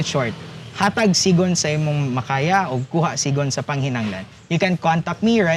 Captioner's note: speaking Cebuano/Bisaya